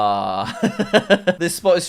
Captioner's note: laughs